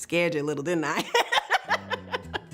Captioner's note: laughter